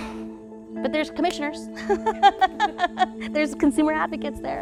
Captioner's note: laughs